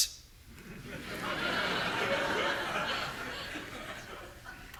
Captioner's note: audience laughing